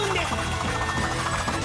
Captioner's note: sounds of writing